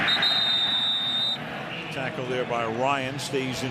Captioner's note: whistles